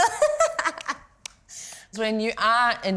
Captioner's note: laughter